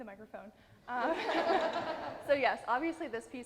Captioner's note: audience laughing